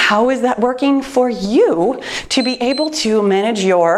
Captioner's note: timer beeps